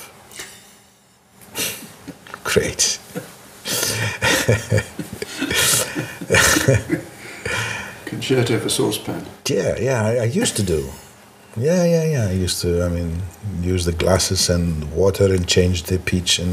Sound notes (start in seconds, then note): 3.6 laughing